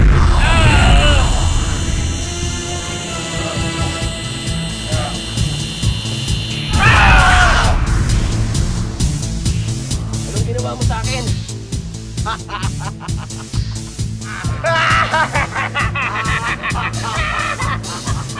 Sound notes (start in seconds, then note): 6.5 screams; 12.1 laughter